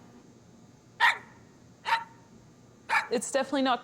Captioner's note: Crunchy barks